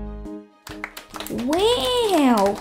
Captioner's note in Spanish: Aplausos